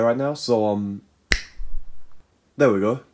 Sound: snap

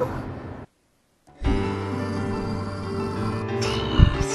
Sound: growls

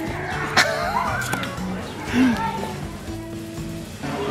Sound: laughter

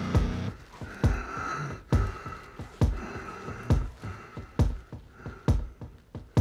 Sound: heavy wheezing and labored breathing

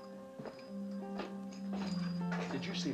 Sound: spurs jingling

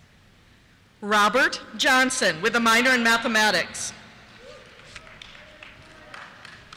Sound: cheers

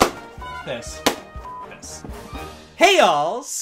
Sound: beep

